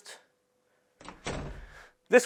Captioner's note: door closes